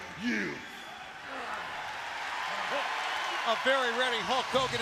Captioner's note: crowd cheering